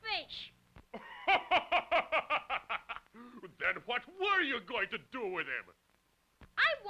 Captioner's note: laughing